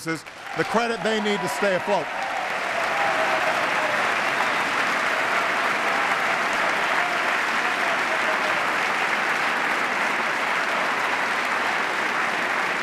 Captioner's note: applause